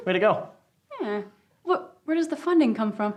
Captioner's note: laughs